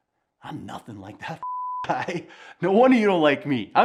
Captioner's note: beep